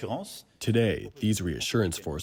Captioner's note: through translator